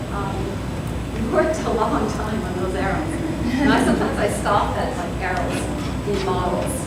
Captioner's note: soft laughter